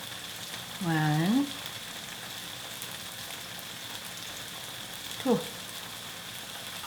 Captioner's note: tofu sizzling